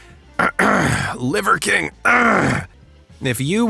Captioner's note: cough